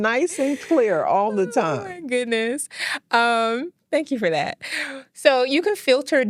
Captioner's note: laughing